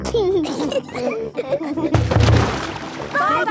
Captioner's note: giggling